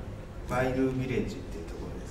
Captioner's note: in English